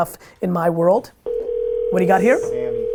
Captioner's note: phone ringing